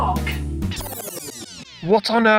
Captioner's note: record scratch